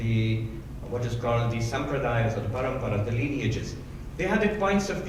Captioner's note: speaking in foreign language